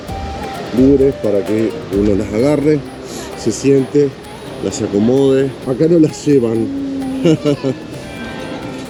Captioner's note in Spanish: risas